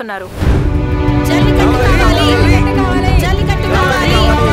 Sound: crowd Protesting

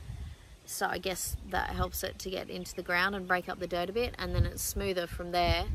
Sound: none

